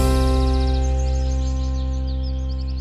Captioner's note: birdsong